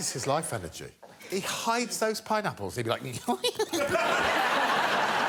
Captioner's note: giggling